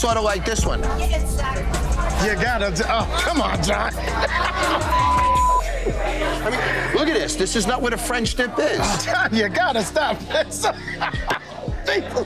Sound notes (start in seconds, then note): 2.8 laughs; 4.8 beep; 11.5 laughs